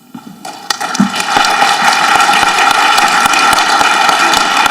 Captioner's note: audience clapping